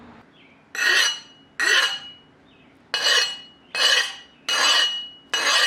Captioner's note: sound of file sliding off